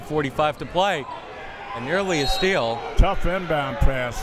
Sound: whistle tweeting

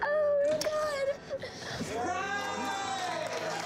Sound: yelling and applauding

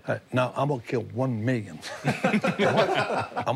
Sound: laughing

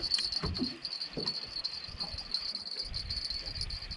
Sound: jangling

